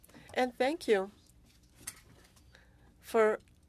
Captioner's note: speaking French